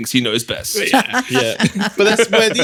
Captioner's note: laughing